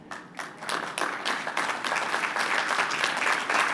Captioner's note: applause